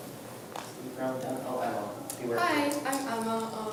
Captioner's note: speaks softly